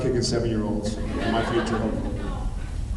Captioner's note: laughs